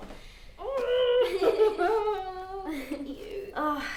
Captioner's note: Lucy giggling; Linda laughing